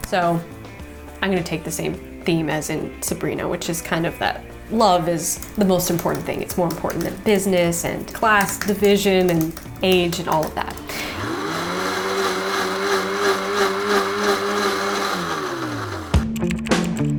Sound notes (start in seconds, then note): 10.7 blender whirring; 16.5 keys clicking; 16.5 lively music